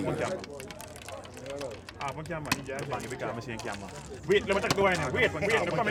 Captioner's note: speaking in a foreign language